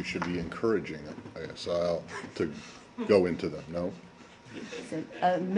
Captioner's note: laughter